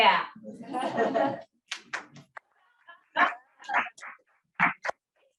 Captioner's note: audience laughs and applauds